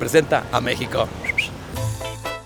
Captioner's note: vlogger whistle